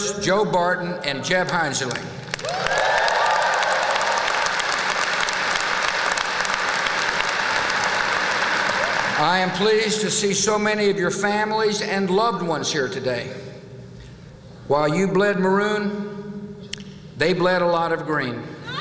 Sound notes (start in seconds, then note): 2.2 applause